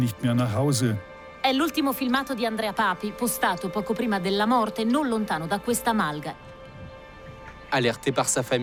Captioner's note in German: italienisch